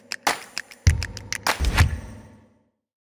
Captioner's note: clicking music; logo whooshing